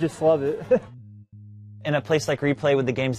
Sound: laughing

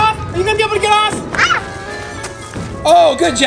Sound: child screams

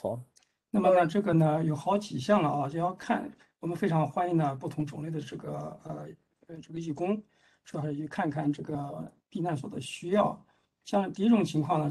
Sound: speaks in Mandarin

